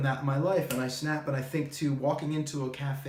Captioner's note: fingers snap